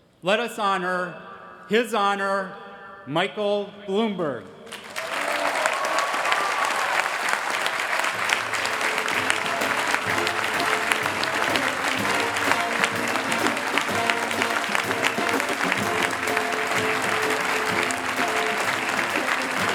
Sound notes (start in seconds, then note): 4.5 applause; 7.9 band playing